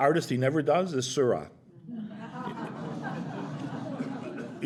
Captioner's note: laughter